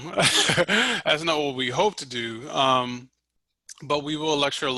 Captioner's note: laughs